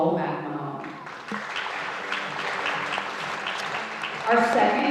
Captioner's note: audience applauding